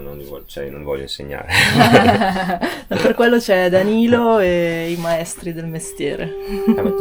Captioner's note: laughter